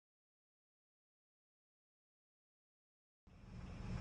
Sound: deafening silence

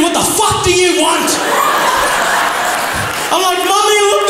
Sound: crowd laughs

